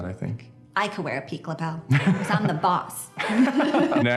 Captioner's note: laughs